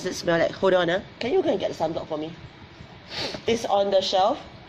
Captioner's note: sniffles